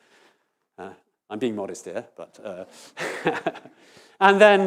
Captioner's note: immodest laughter